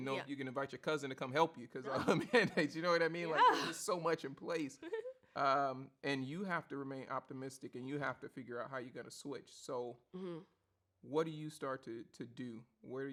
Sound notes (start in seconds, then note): 1.9 chuckles; 3.3 laughs